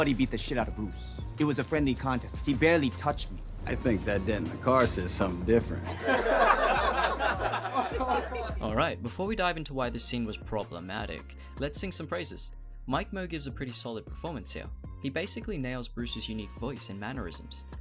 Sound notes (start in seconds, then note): 5.8 audience laughing